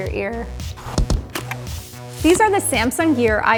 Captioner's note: clicking; whooshing